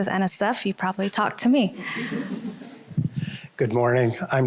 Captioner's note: laughter